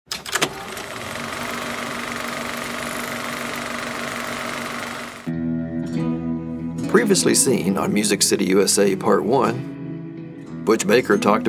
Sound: film projector sounds

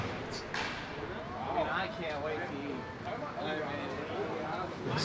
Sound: they chatter

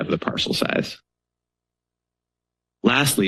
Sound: pause

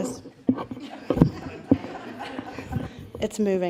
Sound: laughter

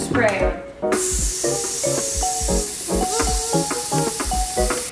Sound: hair spray hissing

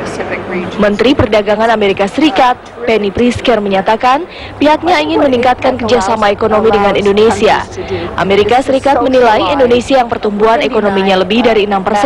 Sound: non-english speech

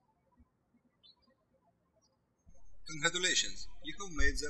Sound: birds chirping

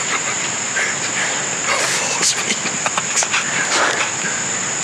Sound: laughing

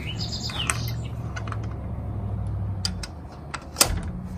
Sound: latch jangles, birds sing

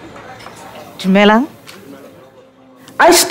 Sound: greeting in foreign language

